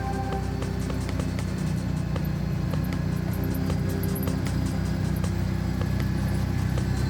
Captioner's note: intriguing music continues; ATV humming